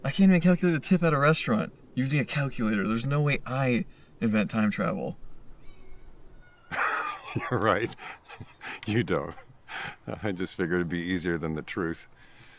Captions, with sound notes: I can't even calculate a tip at a restaurant using a calculator. There's no way I invent time travel. (Chuck laughs) - You're right. You don't. I just figured it'd be easier than the truth.